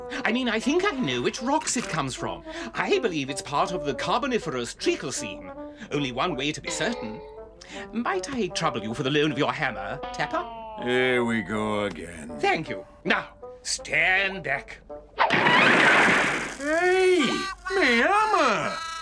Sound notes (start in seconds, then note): 15.2 bang!